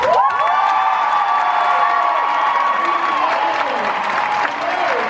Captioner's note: crowd cheering